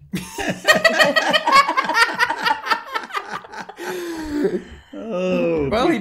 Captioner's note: laugh